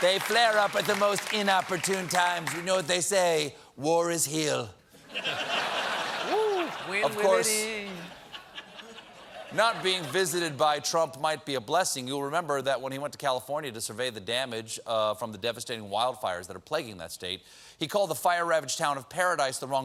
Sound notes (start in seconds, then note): 10.2 laughter